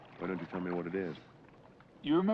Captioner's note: none